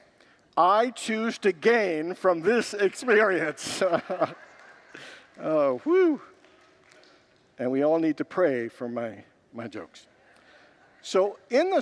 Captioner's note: congregants laugh